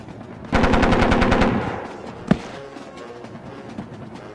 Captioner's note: gun firing